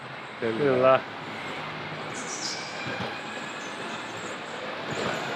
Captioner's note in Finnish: taustahälinää